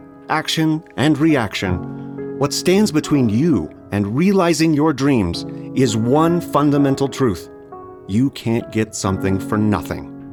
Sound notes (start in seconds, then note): none